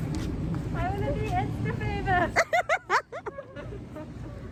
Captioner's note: giggling